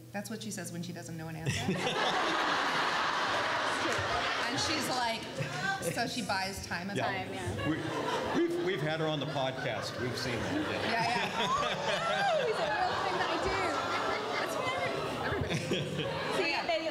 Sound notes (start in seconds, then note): 11.1 laughs